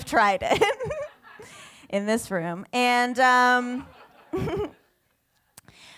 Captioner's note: laughs